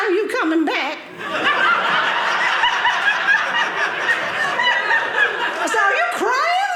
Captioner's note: audience laughing